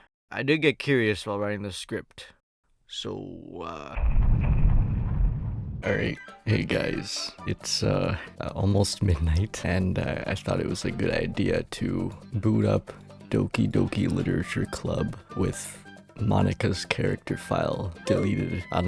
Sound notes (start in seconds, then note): 5.8 in tired voice